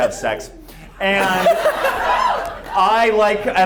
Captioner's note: everyone laughs